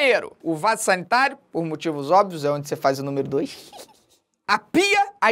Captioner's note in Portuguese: dá uma risadinha